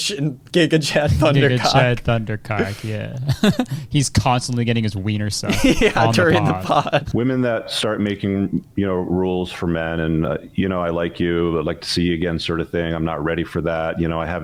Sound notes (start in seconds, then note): 5.4 laughs